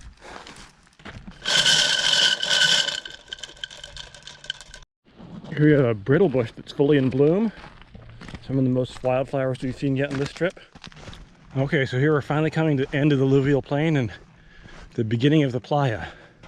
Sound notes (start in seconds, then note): 1.4 marbles clacking